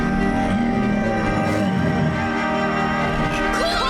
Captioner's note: groaning